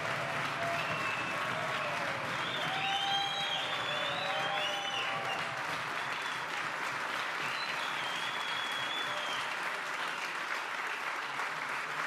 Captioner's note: applause